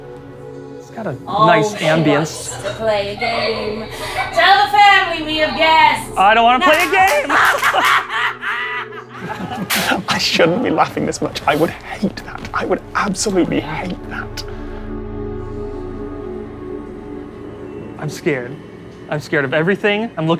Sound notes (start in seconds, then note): 7.3 evil cackling; 7.3 sparking; 9.4 both giggling